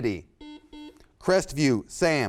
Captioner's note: buzzer sounds